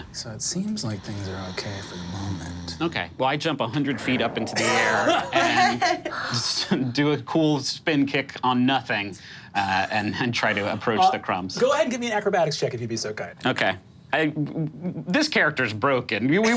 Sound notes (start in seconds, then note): 3.8 laughing